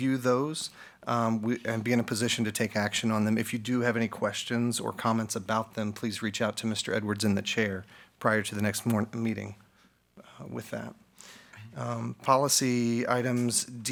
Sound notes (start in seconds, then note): none